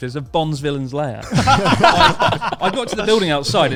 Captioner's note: all laughing loudly